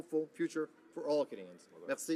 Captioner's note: speaking in french